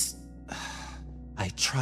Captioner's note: sigh